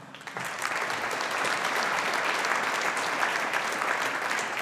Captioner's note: audience applauding